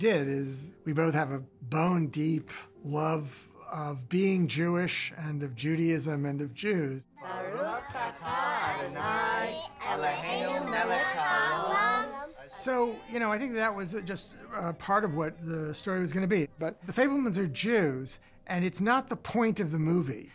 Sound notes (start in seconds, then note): 6.9 all speaking Hebrew